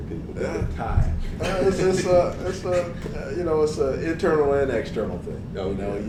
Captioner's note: laugh